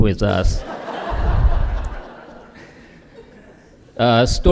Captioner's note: laughter